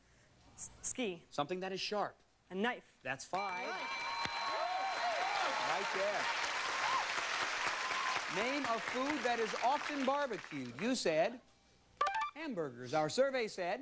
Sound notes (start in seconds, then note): 3.4 bell dinging; 6.5 crowd cheers